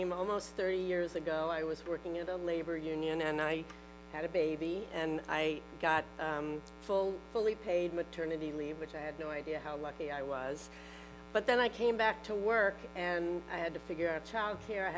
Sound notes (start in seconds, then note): none